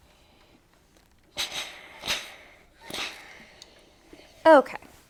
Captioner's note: iron clanks